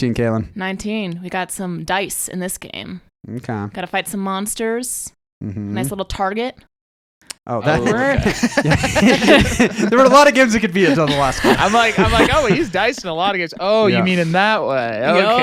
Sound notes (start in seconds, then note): 9.8 laughs